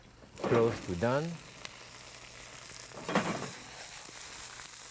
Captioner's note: pan sizzling